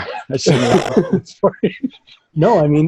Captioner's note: all laughing